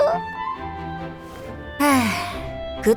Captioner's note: sigh